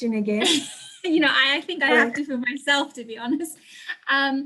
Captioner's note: laughing